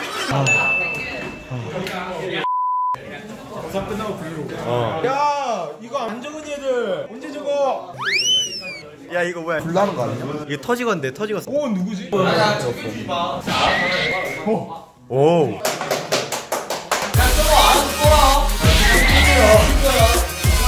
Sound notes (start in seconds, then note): 15.6 clap X7